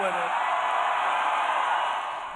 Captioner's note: cheering and applause